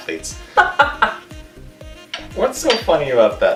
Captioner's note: laughing